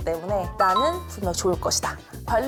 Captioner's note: confident sound effect